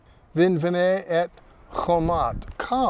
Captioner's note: speaking in Hebrew